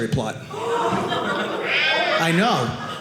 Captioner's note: audience laughing